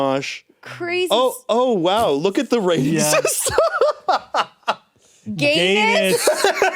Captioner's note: laughs